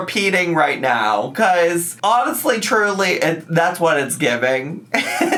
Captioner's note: laughs